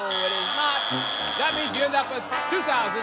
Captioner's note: buzzer